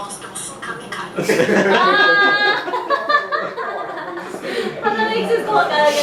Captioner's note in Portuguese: Risadas